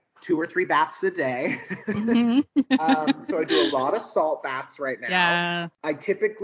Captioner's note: laughing